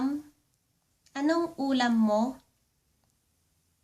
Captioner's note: Tagalog